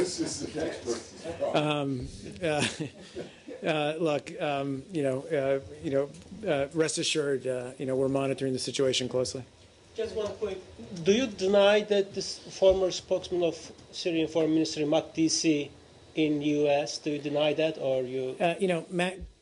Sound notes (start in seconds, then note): 2.5 laughter